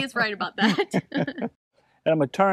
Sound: laughing

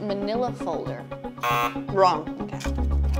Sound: buzzer sounds

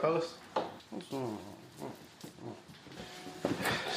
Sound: KP mumbles

